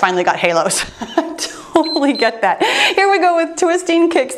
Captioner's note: timer beeps